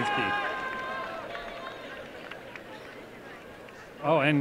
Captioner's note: applause